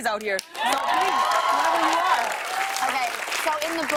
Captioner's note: cheers and applause